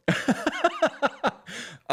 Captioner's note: laughter